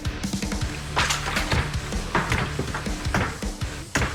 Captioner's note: chopping